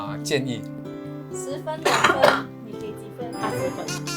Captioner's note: in Mandarin